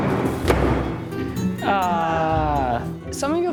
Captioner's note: banging